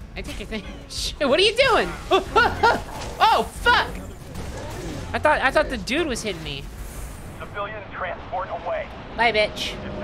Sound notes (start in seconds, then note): 1.8 laughing; 1.9 scared reaction noises